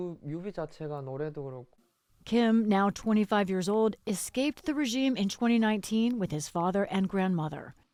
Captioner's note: voice-over